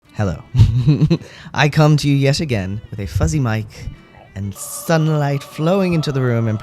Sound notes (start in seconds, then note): 0.7 laugh